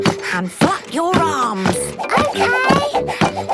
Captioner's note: panting